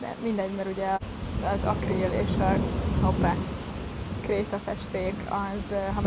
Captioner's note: thunder